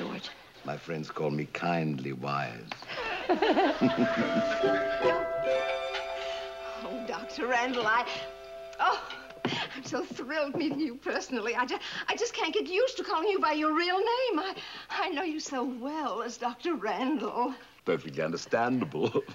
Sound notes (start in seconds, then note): 2.9 laughs